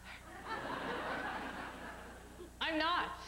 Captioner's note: laughter